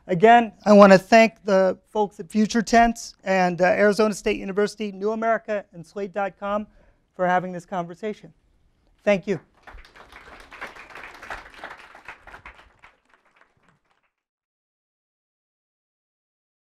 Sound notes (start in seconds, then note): 9.4 applause